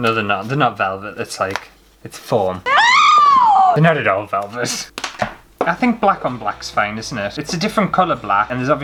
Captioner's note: screaming!